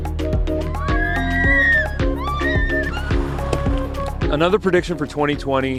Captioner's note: girls shrieking